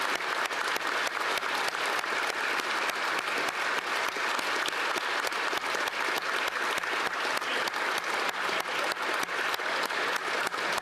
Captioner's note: applause